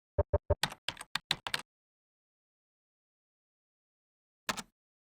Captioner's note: keyboard typing